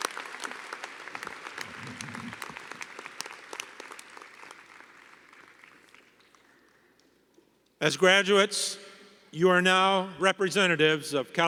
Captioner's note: applause